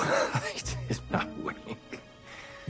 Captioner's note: chuckles